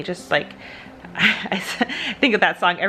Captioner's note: laughs